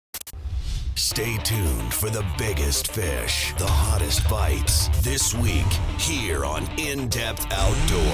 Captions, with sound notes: - [Voiceover] Stay tuned for the biggest fish, the hottest fights, this week, here on In Depth Outdoors.